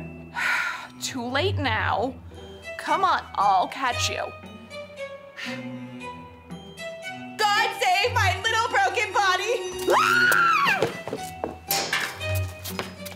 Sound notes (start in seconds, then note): 0.4 sigh; 9.8 screaming